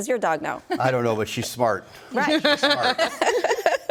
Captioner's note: group laughs